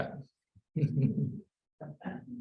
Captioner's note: laughs